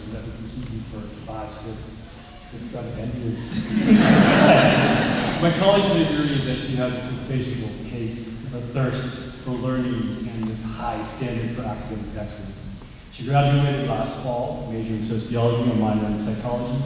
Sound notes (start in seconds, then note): 3.4 laughter